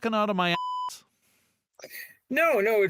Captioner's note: beep